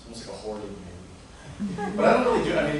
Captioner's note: laughter